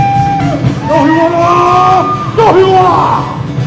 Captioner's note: non-english speech